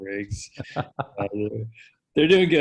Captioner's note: laughing